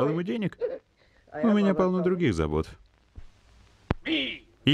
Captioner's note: laughs